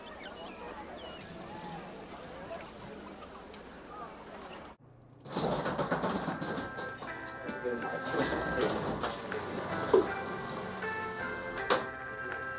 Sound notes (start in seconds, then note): 0.0 busy village noise; 5.2 door rolling open; 6.0 peaceful music